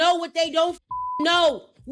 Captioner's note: beep